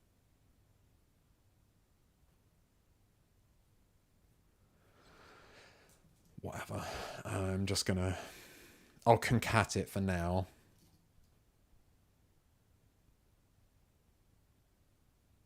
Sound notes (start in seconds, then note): 0.0 silence; 12.2 silence